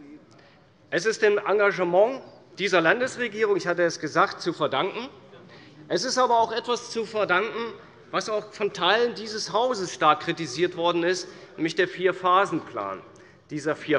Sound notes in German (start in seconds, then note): none